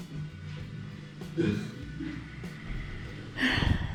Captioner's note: laughs; sighs